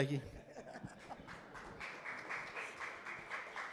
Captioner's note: applause